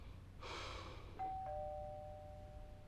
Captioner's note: sighing; doorbell dings